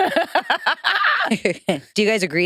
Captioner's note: participants laughing